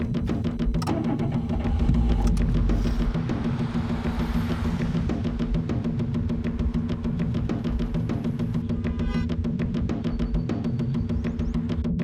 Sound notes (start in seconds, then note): 0.1 engine starts; 8.7 car honks